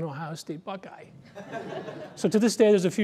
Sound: laughter

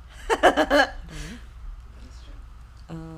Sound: laughing

